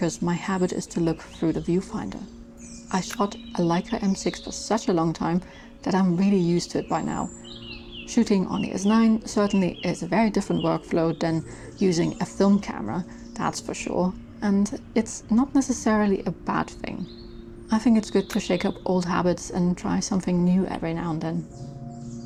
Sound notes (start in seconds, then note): 13.6 birds chirping